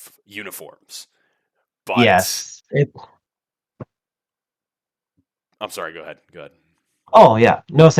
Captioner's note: awkward silence